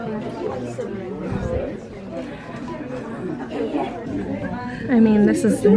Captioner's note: group Chattering